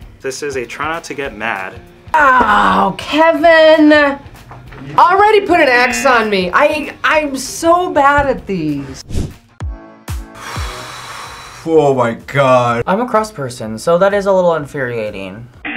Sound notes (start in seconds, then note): 5.4 buzzer rings; 10.3 sighs